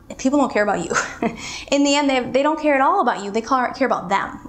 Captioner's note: chuckles